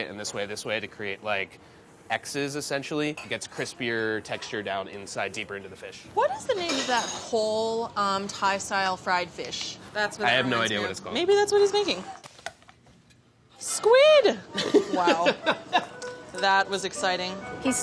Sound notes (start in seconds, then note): 14.5 laughing; 17.0 light upbeat music